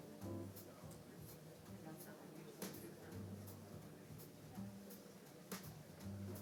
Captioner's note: crowd chattering faintly; melodious music